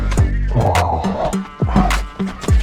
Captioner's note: grunts